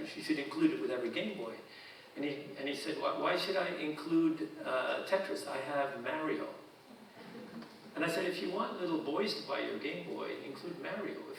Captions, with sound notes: you should include it with every Gameboy." And he said, "Why should I include Tetris? I have Mario." (audience chuckling) And I said, "If you want little boys to buy your Gameboy, include Mario.